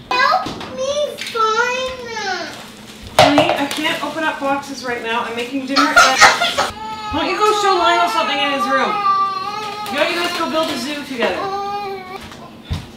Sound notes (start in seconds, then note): 5.9 cries